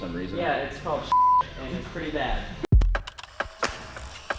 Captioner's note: beep; upbeat music